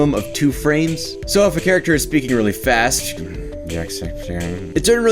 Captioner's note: grumble